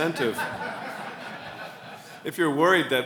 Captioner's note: laughs